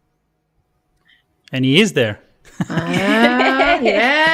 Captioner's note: laughs